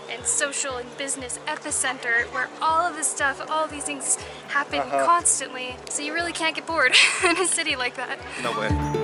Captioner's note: laughs